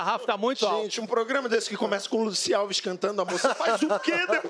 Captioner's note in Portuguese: risos